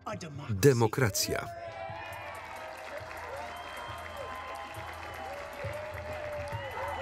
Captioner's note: cheers